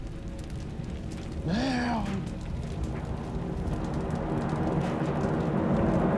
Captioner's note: speaking foreign language